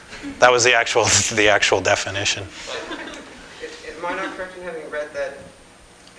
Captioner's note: laughter